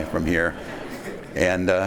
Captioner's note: laughing